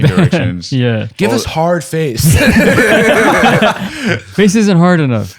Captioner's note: laughter